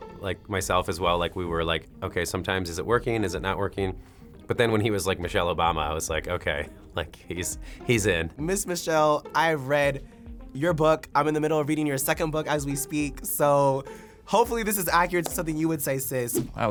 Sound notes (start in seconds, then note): none